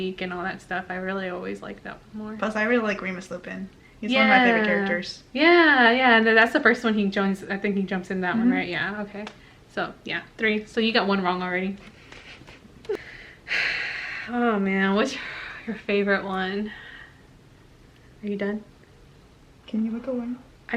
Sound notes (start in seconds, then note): 12.1 giggles under breath; 12.8 sighs; 19.7 whispers